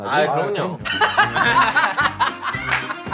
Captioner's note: burst out in laughter